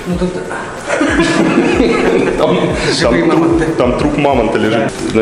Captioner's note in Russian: смех